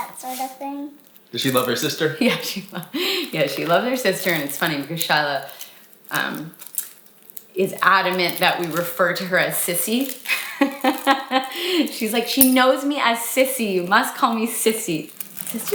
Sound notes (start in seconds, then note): 0.0 banging; 2.2 laughs; 10.3 laughs